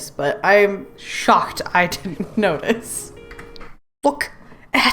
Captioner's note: laughs